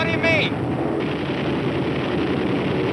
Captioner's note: plane whooshing